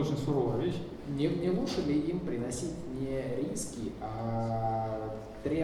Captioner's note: speaking in foreign language